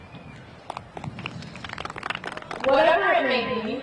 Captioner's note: crowd applauding